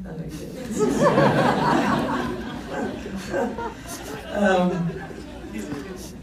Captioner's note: laughs